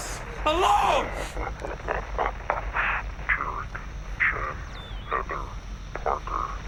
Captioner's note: chuckles